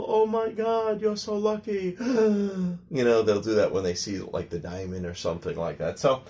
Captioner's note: gasping sound